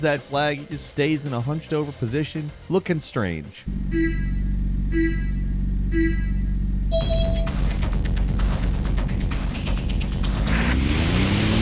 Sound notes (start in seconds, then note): 3.6 timer beeping; 6.9 upbeat music